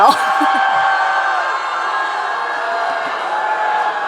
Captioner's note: audience cheering